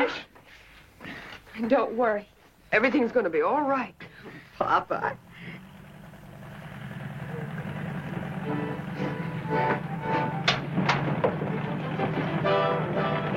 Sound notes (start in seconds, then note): 1.0 engine rumbling; 6.1 soft music; 10.2 cheerful music